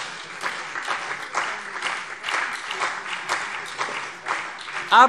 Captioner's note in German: Beifall CDU und BÜNDNIS 90/DIE GRÜNEN